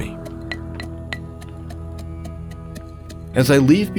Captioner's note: tapping